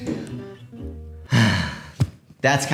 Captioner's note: somber sigh